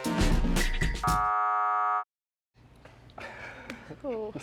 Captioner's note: buzzer buzzing